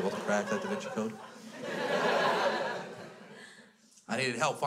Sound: crowd laughs

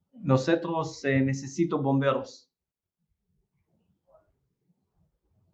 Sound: speaking Spanish

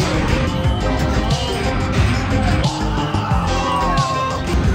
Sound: person exclaiming

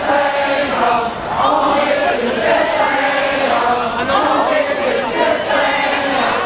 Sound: protestors chanting slogan

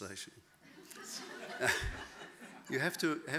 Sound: audience laughing

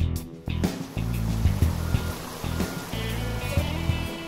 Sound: rushing water

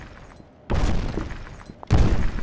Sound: footstep; another footstep

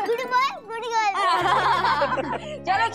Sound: laughing

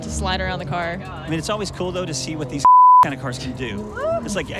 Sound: beeps

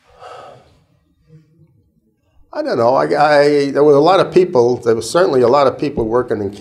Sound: sigh

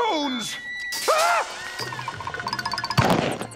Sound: screams

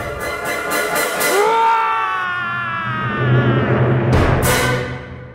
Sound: wombat roar

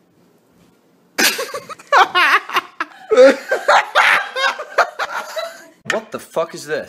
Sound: laughing

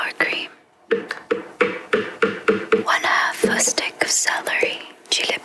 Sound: tapping

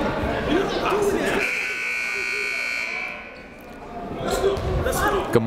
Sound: buzzer ringing

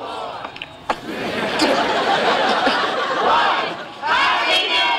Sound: audience laughing

